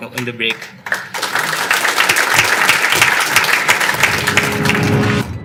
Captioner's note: audience applauding